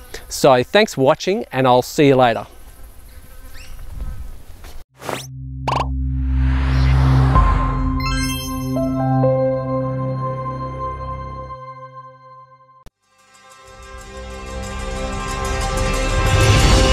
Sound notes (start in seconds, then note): 2.3 birds chirping; 2.4 insects buzzing; 12.9 dynamic instrumental music